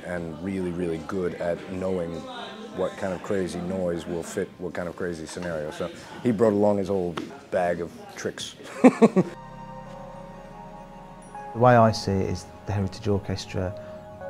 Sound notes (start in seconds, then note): 8.7 laughs